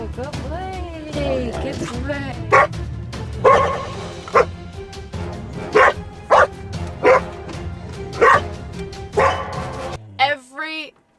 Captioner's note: intense barking